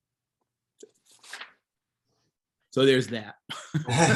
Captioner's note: page turning